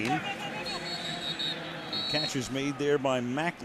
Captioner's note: whistle blows